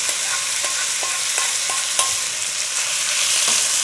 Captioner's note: oil sizzling